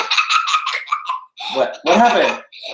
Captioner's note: kids laughter